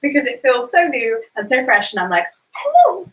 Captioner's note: squeals